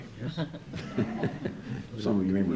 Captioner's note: audience laughs